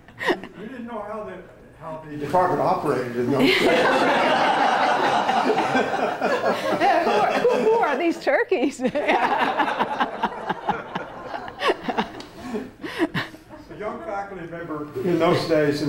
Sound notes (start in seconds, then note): 0.1 laughter; 3.3 laughter; 8.6 laugh